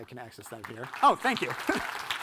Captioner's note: audience clapping